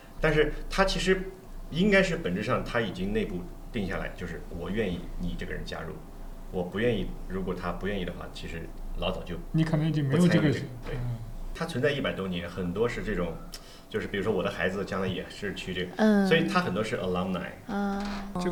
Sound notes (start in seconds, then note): none